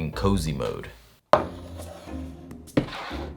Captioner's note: cup sliding